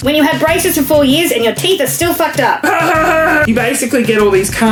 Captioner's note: laughs